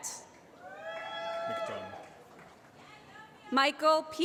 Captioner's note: applause